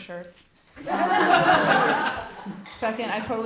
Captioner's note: audience laughs